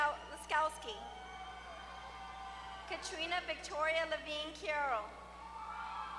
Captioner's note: applause